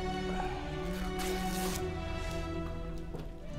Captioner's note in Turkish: Kumaş yırtma sesi; Müzik - Duygusal